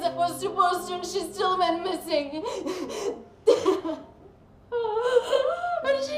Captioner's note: sobbing